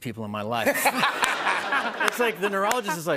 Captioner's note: laughter